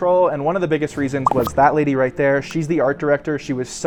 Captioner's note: effect popping